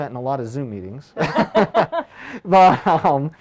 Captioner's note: laughing